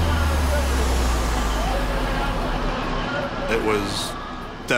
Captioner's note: radio chatter